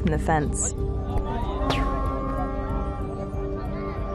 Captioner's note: gunfire